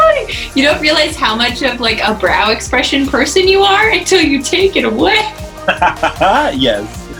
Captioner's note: both laugh